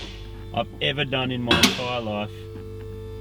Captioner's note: car lifter clicks